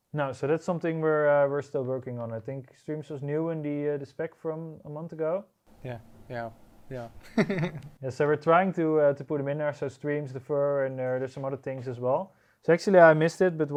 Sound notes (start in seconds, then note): 7.2 chuckles